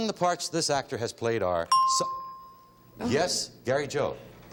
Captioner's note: ding